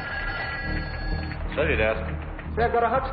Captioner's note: phone rings